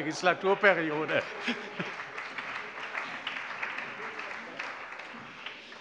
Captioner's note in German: Allgemeiner Beifall